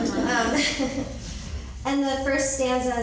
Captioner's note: laughing